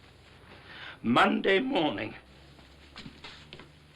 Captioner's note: voice shaking; indignant footsteps